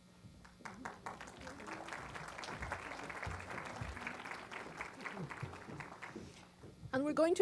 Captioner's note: applause